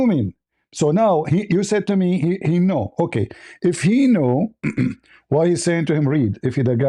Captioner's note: clears throat